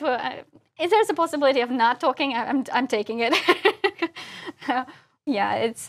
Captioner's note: laugh